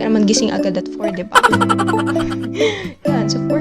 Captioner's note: laugh